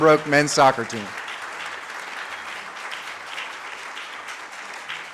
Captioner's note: audience claps